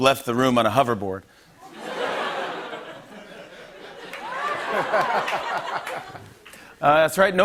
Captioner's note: laughter